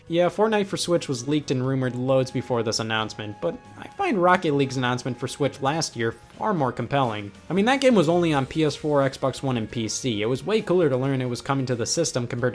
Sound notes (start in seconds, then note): none